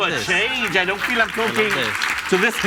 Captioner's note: audience applauds and cheers